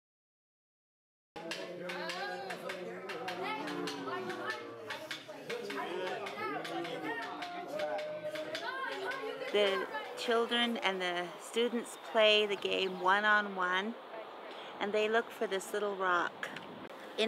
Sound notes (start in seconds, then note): 1.8 talking